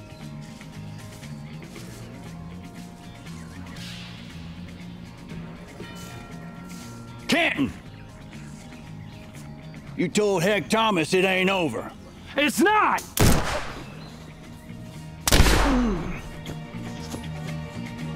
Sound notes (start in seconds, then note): 15.2 gunshots blast